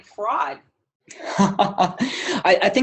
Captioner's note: chuckle